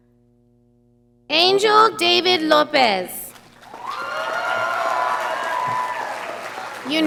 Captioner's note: audience applauding